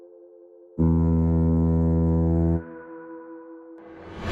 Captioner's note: sound of the horn